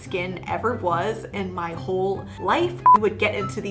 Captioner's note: beeps